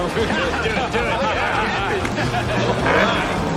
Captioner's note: laughs